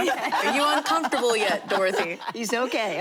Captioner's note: laughter